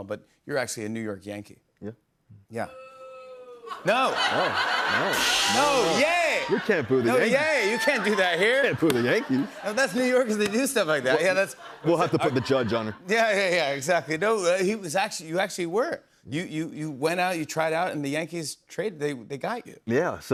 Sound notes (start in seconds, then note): 2.7 woman boos